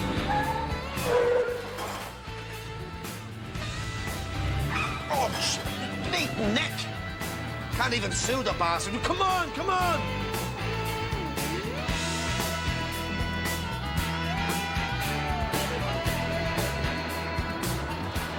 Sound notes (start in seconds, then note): 0.7 Chirrido de neumáticos